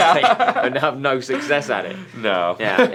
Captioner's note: laughter